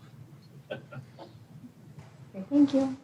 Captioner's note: laughs